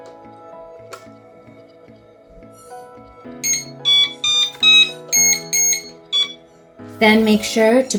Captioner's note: device is beeping